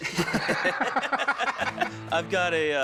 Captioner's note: laugh